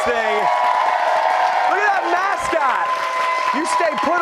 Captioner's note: cheers and applause